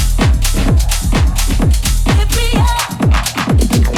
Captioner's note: crowd whooping in unison